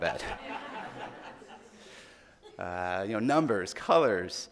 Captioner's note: audience laughing